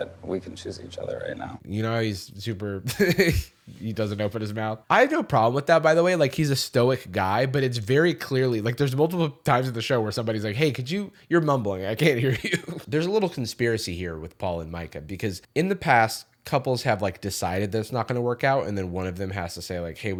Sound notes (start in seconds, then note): 2.8 laughs; 12.2 chuckles